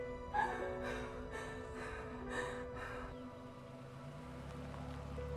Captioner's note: car door thuds; Susan whimpers and pants; car engine revving